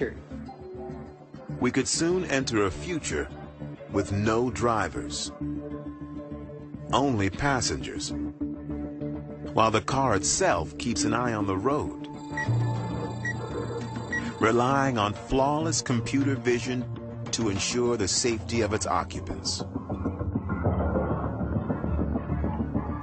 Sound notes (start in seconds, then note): 12.1 computer noises